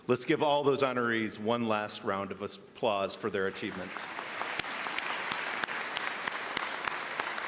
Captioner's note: applause